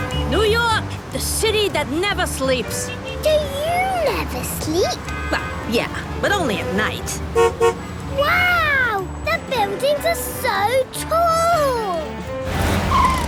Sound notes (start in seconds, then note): 4.8 honks